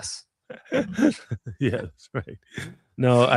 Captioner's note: laughing